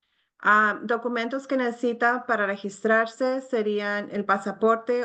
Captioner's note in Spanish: hablando en español